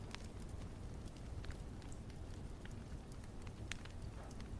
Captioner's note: fire crackling